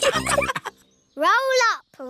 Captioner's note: all laughing